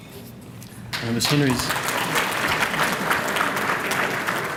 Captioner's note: applause